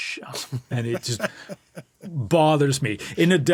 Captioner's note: laughing